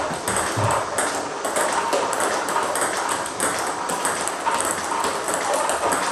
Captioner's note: ball ping pong hitting continues